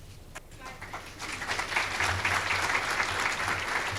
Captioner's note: audience clapping